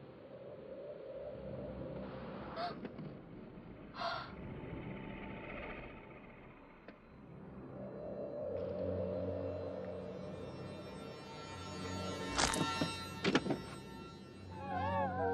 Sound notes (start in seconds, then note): 2.8 gasping; 12.5 bones cracking